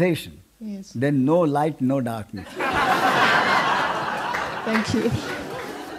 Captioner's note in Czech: smích